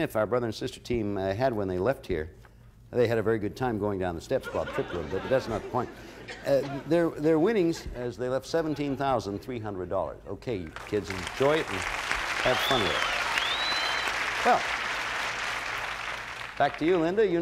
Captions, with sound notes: our brother and sister team, had when they left here. They had a very good time going down the steps. -But that's not the point. -(laughter) Their winnings as they left $17,300. Okay, you kids enjoy it and have fun with it. Well, back to you, Linda.